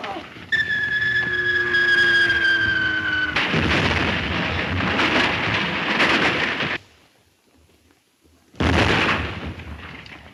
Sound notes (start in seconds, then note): 0.5 plane whistling